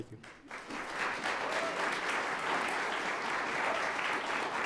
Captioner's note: audience applauds